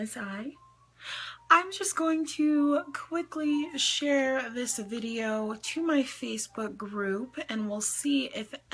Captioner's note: inhales